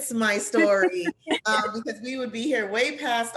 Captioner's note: laughter